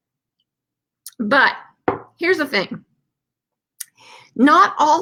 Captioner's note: glass bangs